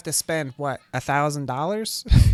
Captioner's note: pained laughing